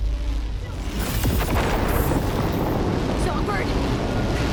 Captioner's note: Digital Noise - Relic malfunction + Explosion